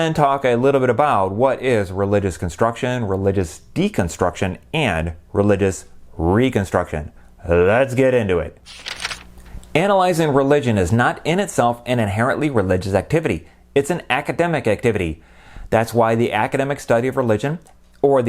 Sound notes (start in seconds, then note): 8.6 page turning